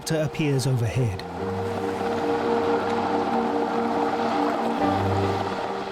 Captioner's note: helicopter blades whirl